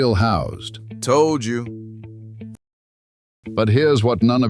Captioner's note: flatly